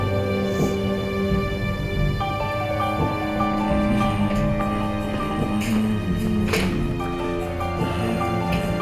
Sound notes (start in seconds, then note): 3.4 janitor humming